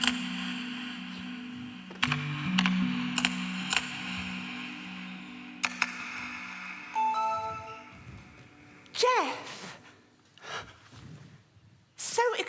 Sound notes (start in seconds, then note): 6.9 sound of an email arriving